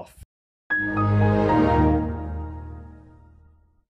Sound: computer shuts down in background

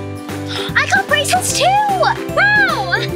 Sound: upbeat playful music; gasps; laughs

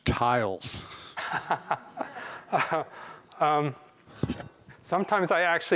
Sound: chuckling

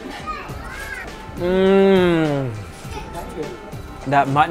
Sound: groans

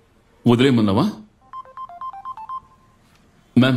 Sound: phone Ringing

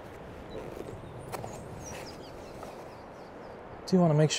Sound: desert Birds Chirping

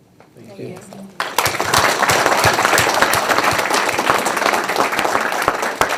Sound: audience applauding

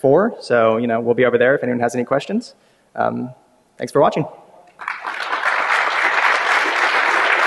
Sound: applause

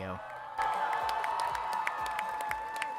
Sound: crowd applause to drinking water

